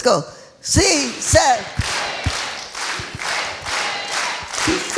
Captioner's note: speaking foreign language